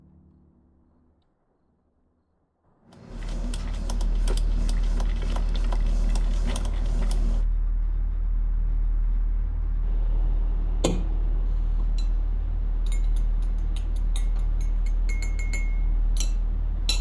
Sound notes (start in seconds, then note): 3.1 coffee dripping